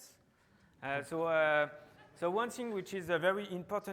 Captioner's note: audience chuckling